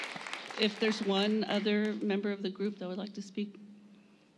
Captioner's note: applause